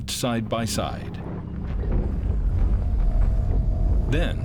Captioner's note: thundering footsteps